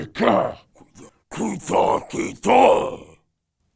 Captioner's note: alien sounds